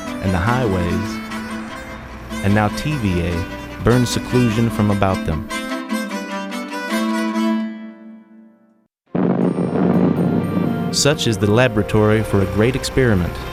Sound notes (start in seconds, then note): 9.1 explosion; 9.5 soft music